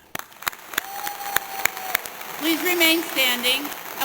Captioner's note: applause